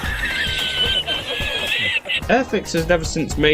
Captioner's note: El Risitas squeal